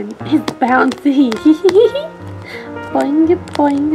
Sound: Grace giggles

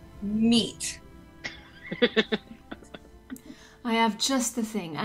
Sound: laughs

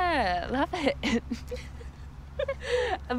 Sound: both laughing

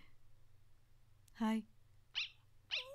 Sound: breaths in

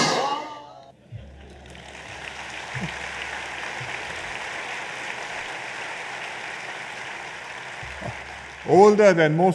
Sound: applause

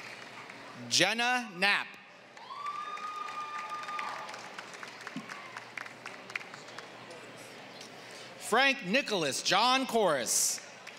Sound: applause; applause; applause

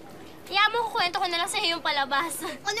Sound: laughs

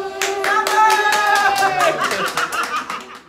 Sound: cheering and "Bravo!"

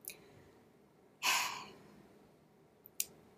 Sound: sigh

